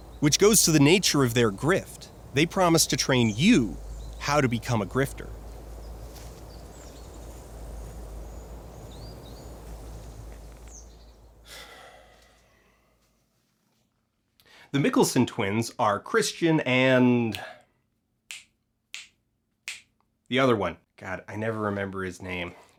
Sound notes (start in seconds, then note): 5.5 calm nature ambiance and birdsong